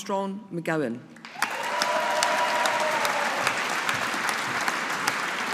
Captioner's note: audience applauding